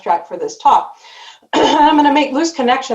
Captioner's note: clears throat